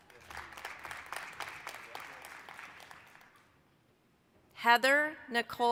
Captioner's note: applause